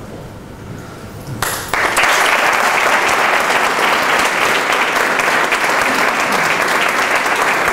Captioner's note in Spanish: aplausos